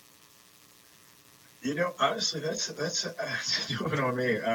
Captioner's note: laughter